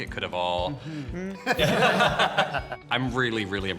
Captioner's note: all chuckling